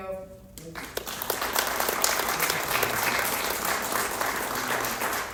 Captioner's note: applause